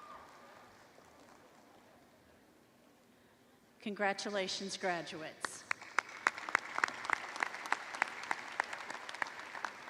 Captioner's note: applause